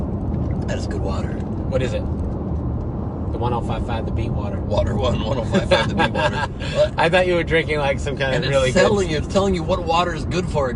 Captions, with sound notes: - That's good water. - What is it? The 105.5 The Beat water. - Water 105.5 The Beat water. (laughs) - I thought you were drinking some kind of really good-- - It's telling you what water is good for,